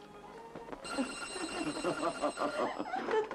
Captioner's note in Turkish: telefon çalar